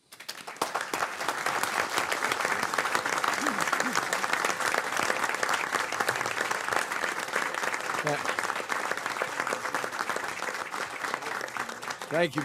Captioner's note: applause